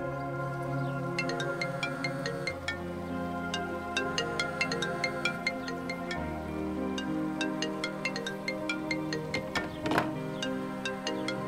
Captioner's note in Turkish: Telefon Çalıyor